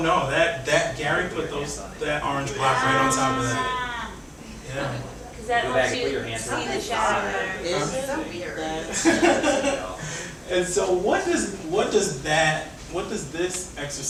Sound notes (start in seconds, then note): 6.5 audience chattering; 8.8 laughs